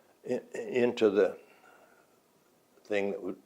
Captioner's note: none